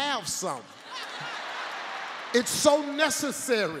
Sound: audience laughs

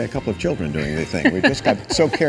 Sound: Vanna laughs

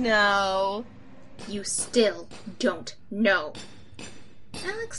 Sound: angry low voice

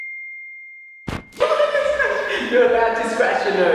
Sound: laughing

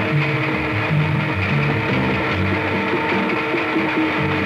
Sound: train horn; airplane propeller and engine; water flowing

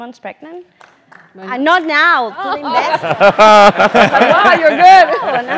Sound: laugh

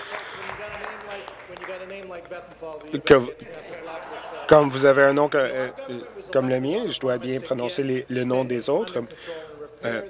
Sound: applause

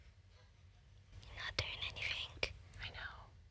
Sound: whispers

